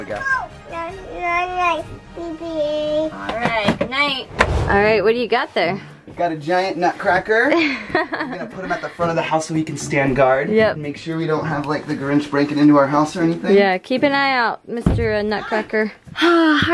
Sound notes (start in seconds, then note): 1.4 baby talk